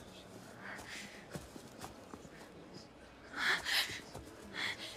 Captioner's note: breathing heavily